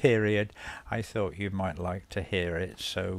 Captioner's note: laughs